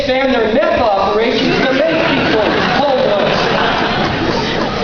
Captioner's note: laughter